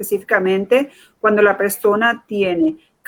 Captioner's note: speaking in Foreign Language